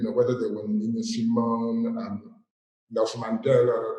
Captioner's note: none